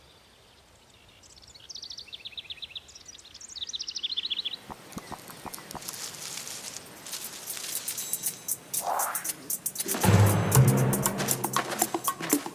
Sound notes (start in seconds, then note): 1.3 birds twittering; 5.0 hopping; 7.0 rustling; 9.8 action music